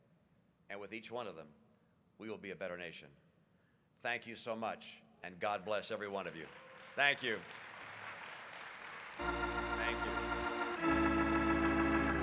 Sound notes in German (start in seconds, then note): 10.1 Applaus, Harmonium